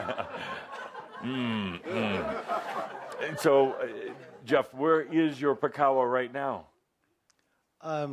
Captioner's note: chuckling; more laughter